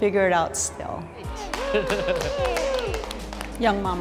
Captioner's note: group claps